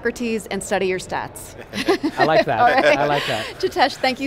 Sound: laugh

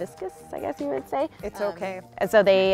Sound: laughs

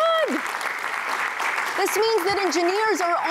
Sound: applause

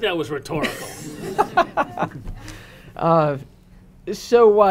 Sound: audience laughing

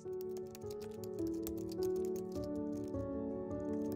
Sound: quiet clicking

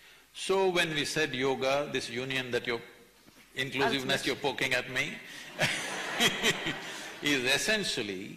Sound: laughter

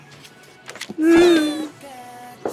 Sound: sobbing

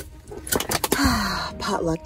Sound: seatbelt clicks

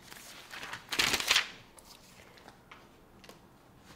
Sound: pages rustling

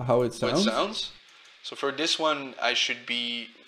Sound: radio voice

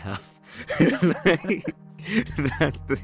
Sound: both laughing

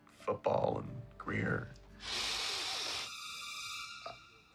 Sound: hissing

